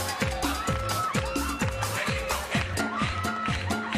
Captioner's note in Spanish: aplausos